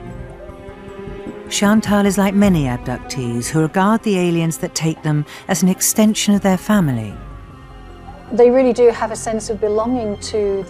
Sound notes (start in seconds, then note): 1.7 voiceover